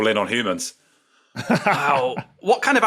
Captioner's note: laughs